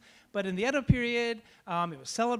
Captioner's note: none